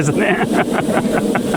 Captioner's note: laughter